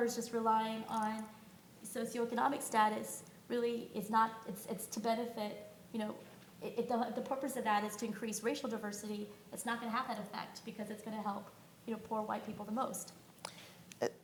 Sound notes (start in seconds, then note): none